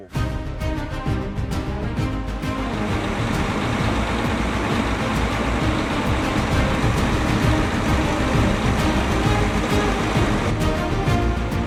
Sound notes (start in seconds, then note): 0.2 dramatic music; 2.8 machine whirring